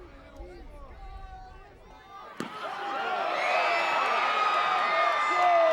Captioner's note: applause